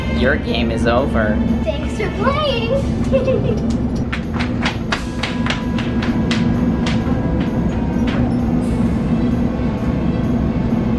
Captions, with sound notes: - Your game is over. - Thanks for playing. (laughter) (footsteps running) (adventurous music)